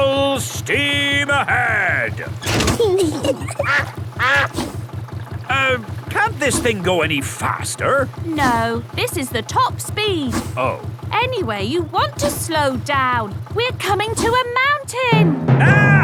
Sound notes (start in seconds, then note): 2.8 kids giggling; 2.8 level clangs; 4.2 quacks